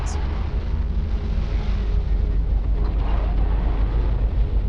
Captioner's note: engine sputtering